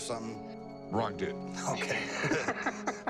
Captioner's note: laughs